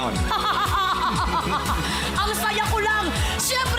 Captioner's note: laughs dryly; giggles